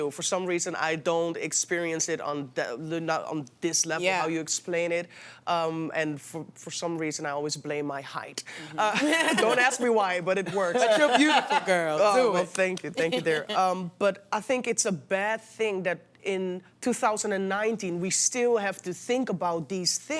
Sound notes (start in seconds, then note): 12.9 laughter